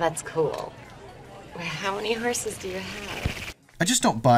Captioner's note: slurping